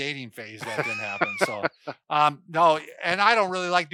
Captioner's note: laughs